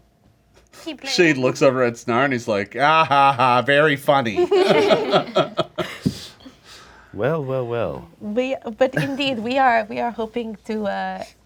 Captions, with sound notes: - Keep playing? - She looks over at Snarr, and he's like, ahaha, very funny. (laughing) - Well, well, well. - Indeed, we are hoping to,